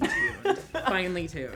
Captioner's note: laughs